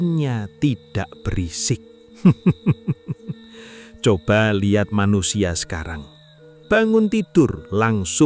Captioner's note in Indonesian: tertawa